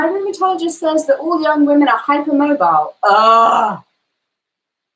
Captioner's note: groans